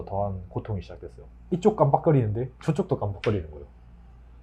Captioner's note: fluorescent light